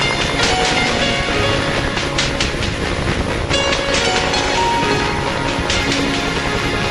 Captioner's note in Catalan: So de l'helicòpter volant